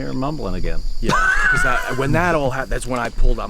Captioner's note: laughing